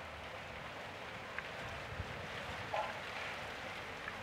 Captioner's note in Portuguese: som ambiente: vento agitando as folhas